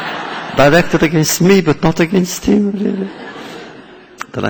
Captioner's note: laughter